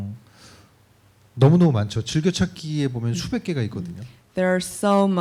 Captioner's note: speaking korean